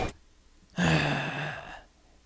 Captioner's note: exhale